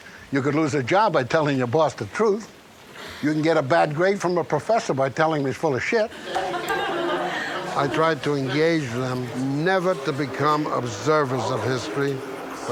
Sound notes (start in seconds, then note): 6.1 students laughing